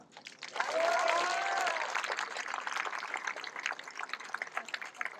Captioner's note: cheering, applause